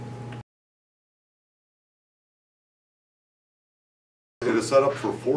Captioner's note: silence